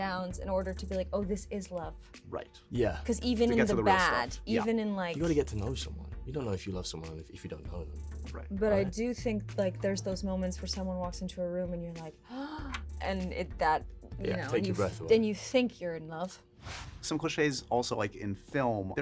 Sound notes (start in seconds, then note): 12.2 gasps